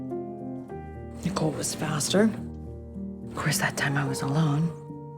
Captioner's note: voiceover